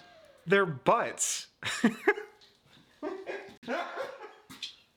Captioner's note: laughing